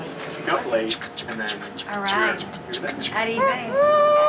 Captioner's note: imitating train chugging